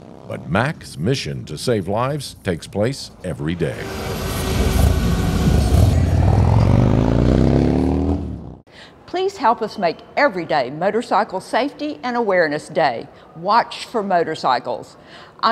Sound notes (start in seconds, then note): 3.2 engine roaring